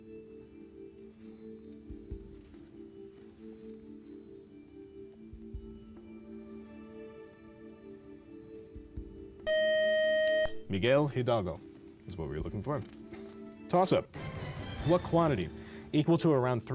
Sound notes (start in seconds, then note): 7.8 time up buzzer